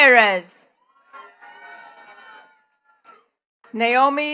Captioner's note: attendees cheering and clapping